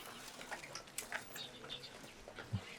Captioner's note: none